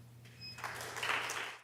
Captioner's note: audience applause